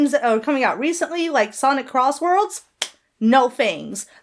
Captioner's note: Hana claps